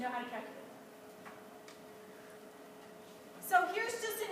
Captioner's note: silence